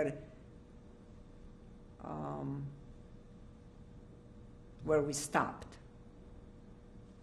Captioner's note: pauses for 3 seconds